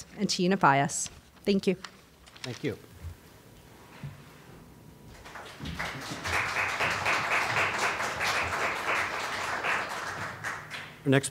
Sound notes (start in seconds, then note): 5.1 applause